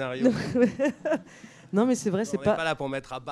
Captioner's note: laughs